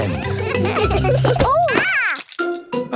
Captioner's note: laughter; exclamations